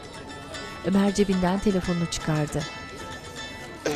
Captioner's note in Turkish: Telefon zili sesi